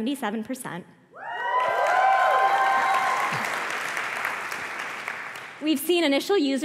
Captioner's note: applause